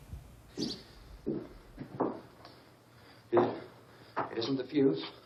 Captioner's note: footsteps echoing